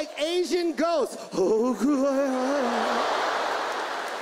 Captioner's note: imitates Korean in ghostly voice; audience laughs